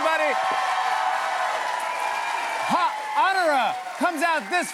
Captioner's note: cheers and applause